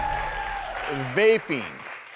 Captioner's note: clapping and cheering